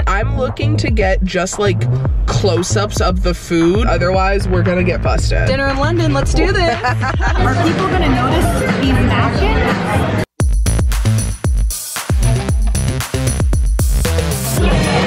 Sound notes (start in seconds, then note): 6.5 laughs; 10.3 upbeat music